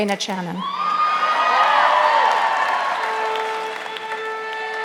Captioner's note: audience applauding; lively music playing